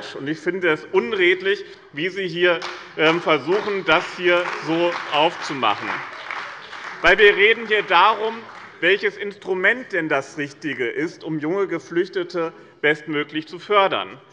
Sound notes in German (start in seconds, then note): 5.8 Beifall bei dem BÜNDNIS 90/DIE GRÜNEN und der CDU